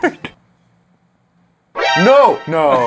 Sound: laughs; awkward silence

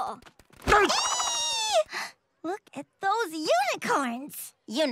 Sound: squeals

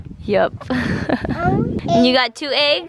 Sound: laughing

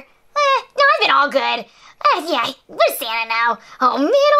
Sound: scoffs

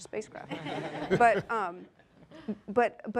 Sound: laughing

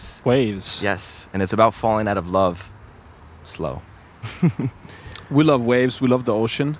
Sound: laughs

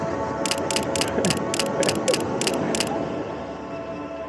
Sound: camera clicks rapidly

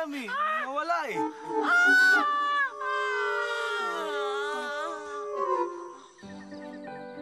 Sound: both shout and groan; dramatic music playing

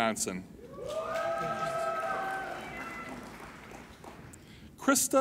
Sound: applauding and cheering

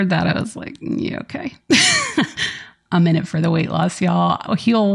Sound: laughs

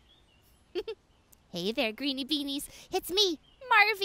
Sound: giggles

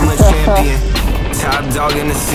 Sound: laughs

